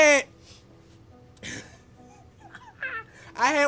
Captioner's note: laughs